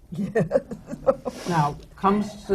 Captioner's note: laughs